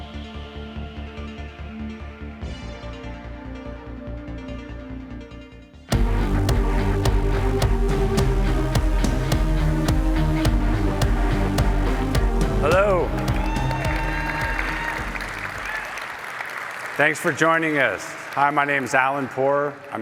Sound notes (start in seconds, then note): 12.7 applause